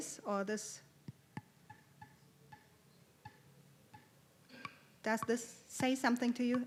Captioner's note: tapping on flute